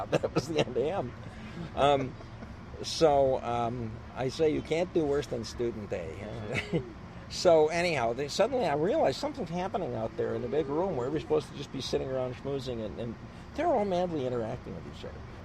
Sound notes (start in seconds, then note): 6.3 laughs